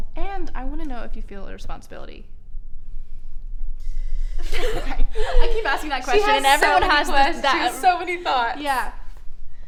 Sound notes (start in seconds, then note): 4.4 laughs